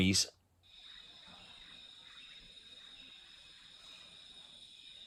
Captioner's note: jungle sounds - bird and insect noises